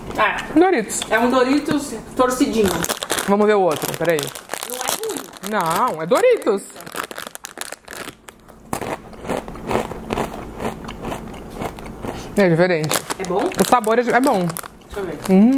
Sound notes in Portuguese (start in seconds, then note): 8.7 mastigando